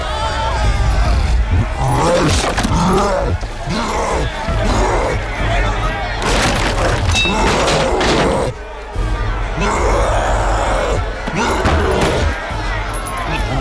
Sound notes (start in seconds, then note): 1.8 wood creaking; 9.4 crowd screaming; 9.6 cyclops roaring